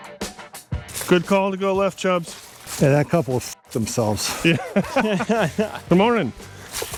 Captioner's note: laughter